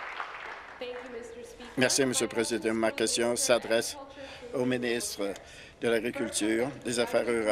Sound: applause

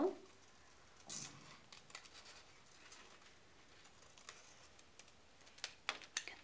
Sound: scissors snipping

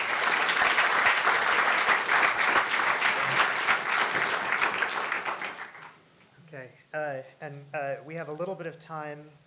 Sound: audience applause

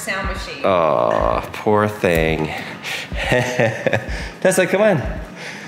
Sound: scoffs

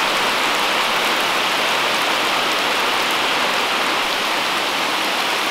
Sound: pounding raindrops

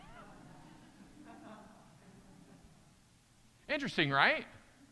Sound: audience chuckling

